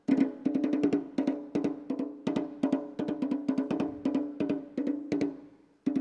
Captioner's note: none